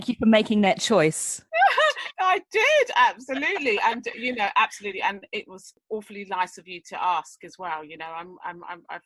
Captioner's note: laughs